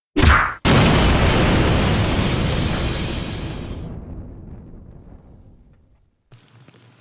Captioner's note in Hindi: विस्फोट।; कार जलना।